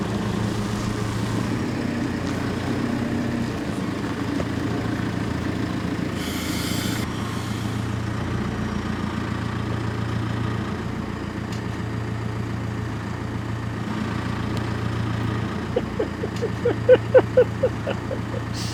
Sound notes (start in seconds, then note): 6.2 hydraulics hissing; 15.7 giggles